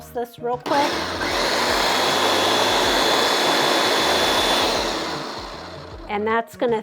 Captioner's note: blender whirs